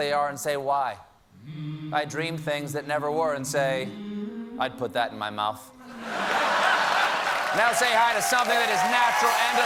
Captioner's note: laughter; applause